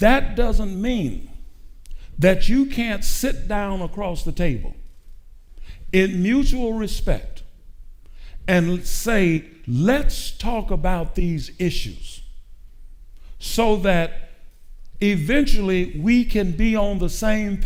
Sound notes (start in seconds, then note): none